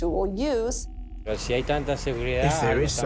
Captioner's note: speaking Spanish